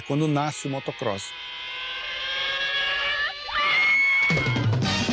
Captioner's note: children shoutting